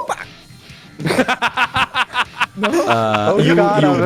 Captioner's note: laughter